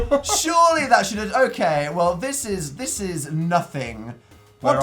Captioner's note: laughs